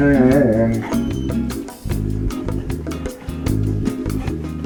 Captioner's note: dogs whining